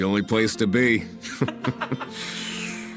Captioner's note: deep laugh